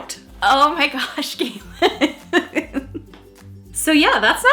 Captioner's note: laughing